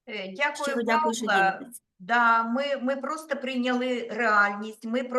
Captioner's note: speaking Ukrainian